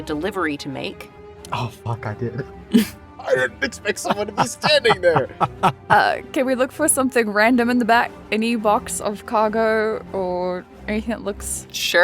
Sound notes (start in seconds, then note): 5.8 laughs